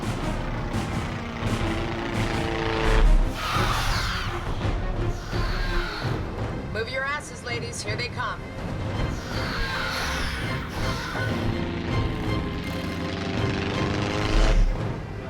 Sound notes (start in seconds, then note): 0.1 dramatic music; 0.1 propellers whirring; 3.5 creatures screeching; 9.0 creatures screeching; 10.2 dramatic music